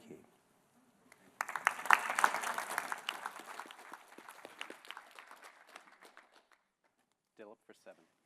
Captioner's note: applause